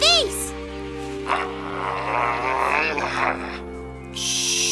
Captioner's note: growling; shushing